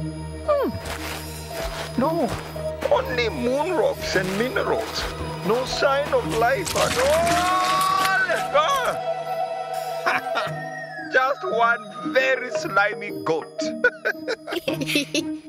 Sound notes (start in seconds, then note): 6.8 screaming; 10.0 chuckling; 13.6 giggling